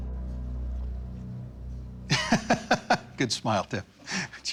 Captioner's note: laughs